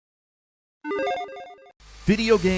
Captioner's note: electronic chiming